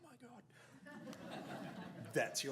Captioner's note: audience laughs